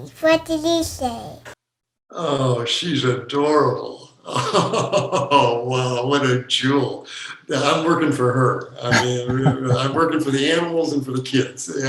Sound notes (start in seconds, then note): 3.7 laughing